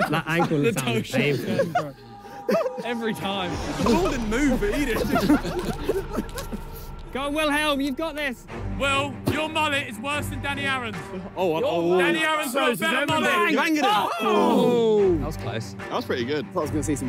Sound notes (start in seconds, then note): 3.8 players laugh; 13.2 players groan